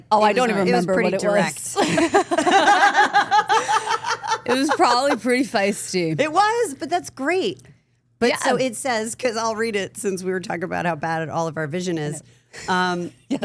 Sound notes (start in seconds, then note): 1.7 group laughs